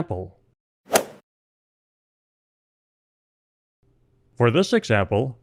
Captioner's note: golf swing sound effect